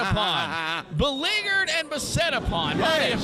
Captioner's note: Nigel chuckling loudly